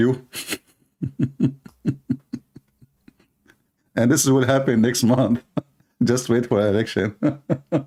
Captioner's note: Ketawa; Ketawa